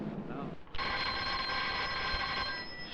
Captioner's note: telephone ring